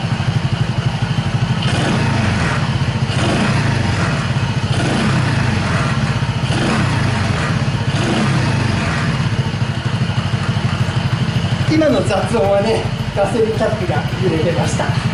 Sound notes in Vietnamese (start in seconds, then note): 11.0 cười